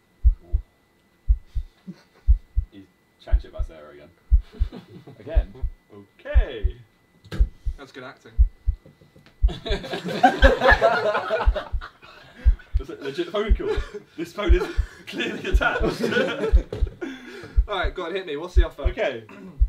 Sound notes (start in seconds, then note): 4.4 all chuckling; 5.3 heart beating; 8.3 heart beating; 9.5 all laughing; 13.4 heart beating; 16.0 all laughing; 16.0 heart beating